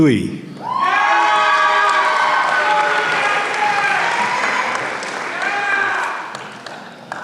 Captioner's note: applause